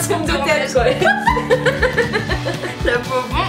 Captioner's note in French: rires